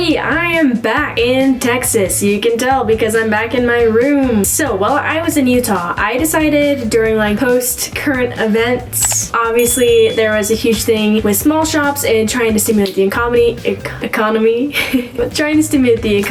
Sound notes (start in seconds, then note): 14.7 chuckles